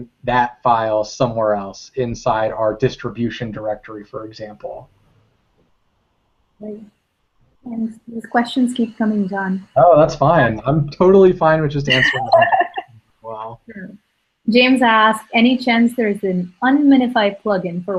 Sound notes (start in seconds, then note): 12.9 laugh